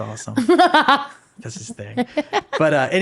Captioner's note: laughing